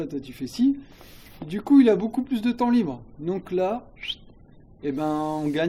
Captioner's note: whistle